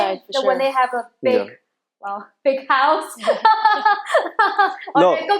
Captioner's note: laughing